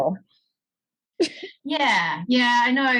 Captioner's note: laughs